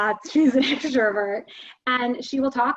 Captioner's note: chuckles